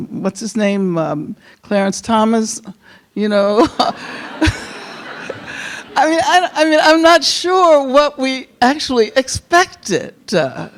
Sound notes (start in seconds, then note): 3.7 chuckles; 3.7 audience laughing